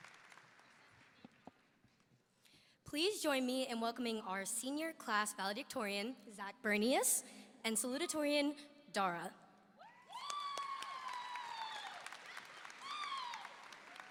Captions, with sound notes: - Please join me in welcoming our senior class valedictorian, Zac Bernius, and salutatorian, Dhara. (audience applauding)